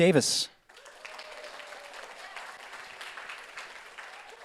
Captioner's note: audience applauds